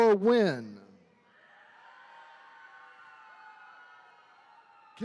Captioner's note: attendees cheering